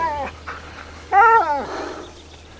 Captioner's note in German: Winseln